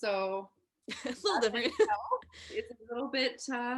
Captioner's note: chuckling